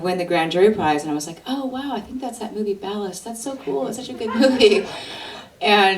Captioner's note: laughter